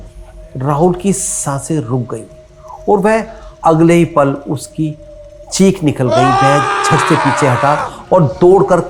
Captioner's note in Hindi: चीखने की आवाज़